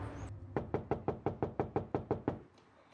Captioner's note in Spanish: toques en la puerta